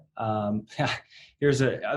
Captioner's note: laughing